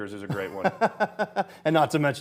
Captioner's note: laughing